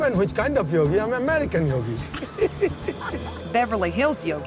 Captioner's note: laughing